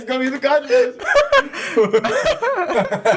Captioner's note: laughing